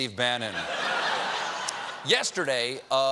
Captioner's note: laughter